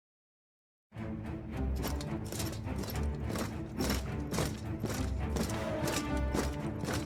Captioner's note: dramatic orchestral music; steps thudding